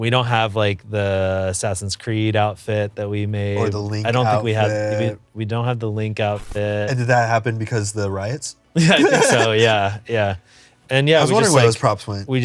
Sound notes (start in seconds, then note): 8.7 both laugh